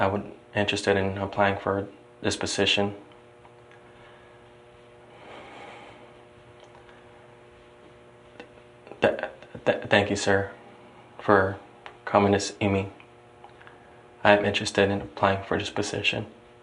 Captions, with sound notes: I am interested in applying for this position. [exhales] [stuttering] Thank you, sir, for coming to see me. I am interested in applying for this position.